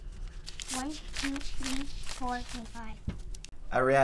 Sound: bills shuffling

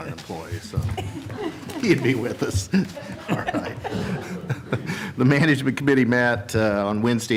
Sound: laughter

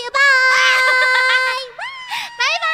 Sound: laugh

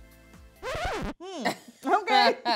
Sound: record screech

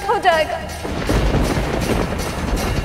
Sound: thundering

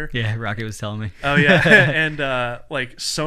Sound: laughing

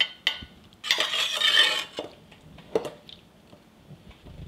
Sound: spoon scraping

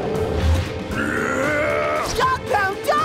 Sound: grunting

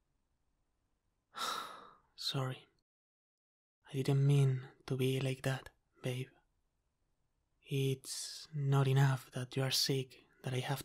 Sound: sigh

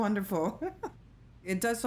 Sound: laughter

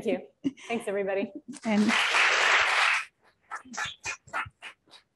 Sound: applause

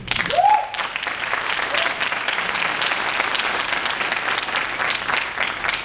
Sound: audience cheering and clapping

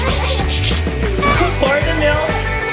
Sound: child laughing; person chattering teeth; horn beeping

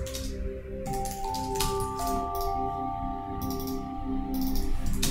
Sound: keys clacking; beautiful, soothing chime and bell music

